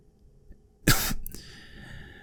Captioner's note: cough